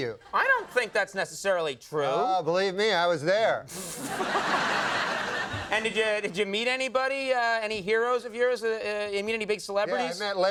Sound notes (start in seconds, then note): 3.8 audience laughing